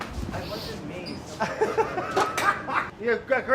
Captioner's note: laughing